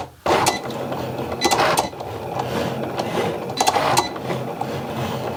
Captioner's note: Cricut beeping and rumbling